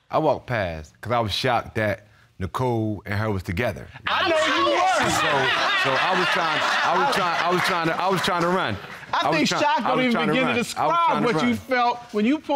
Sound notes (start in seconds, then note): 4.1 all speaking together and laughing